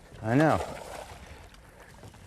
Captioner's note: splash